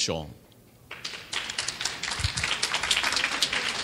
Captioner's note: clapping